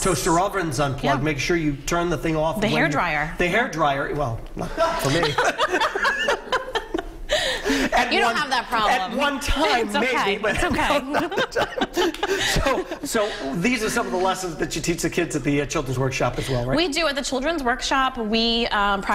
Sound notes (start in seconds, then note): 10.5 laughter